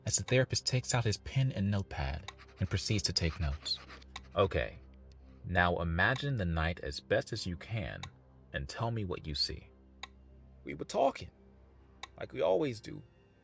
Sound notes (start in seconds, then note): 2.3 pen scribbles